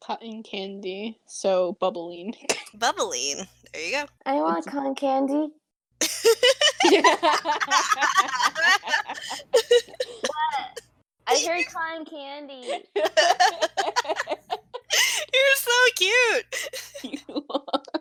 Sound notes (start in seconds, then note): 9.1 laughs; 12.8 continues laughing; 15.8 through laughter